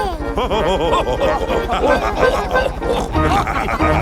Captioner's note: chuckles; all laughing